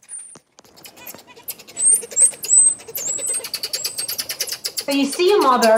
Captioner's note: baby monkey's mother chattering